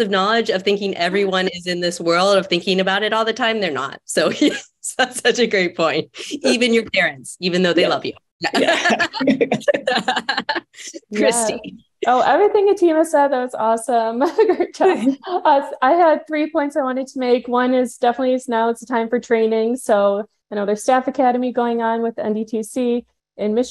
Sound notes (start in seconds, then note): 8.4 laughing; 14.0 laughs